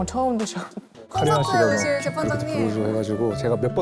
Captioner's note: intoxicated sound effect